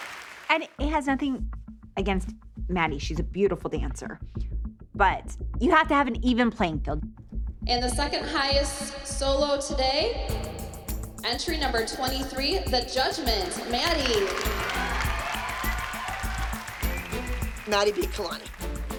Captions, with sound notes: And it has nothing against Maddie. She's a beautiful dancer. But you have to have an even playing field. And the second highest solo today... Entry number 23. "The Judgment." Maddie! [cheering and applause] Maddie beat Kalani.